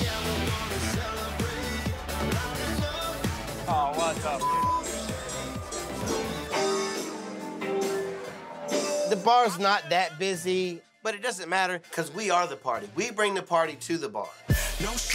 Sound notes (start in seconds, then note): 4.3 beep